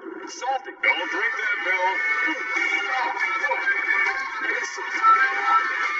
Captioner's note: announcer voice